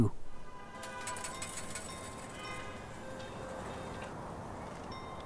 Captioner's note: traffic sounds